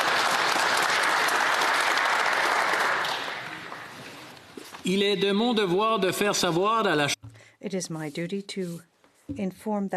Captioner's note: applause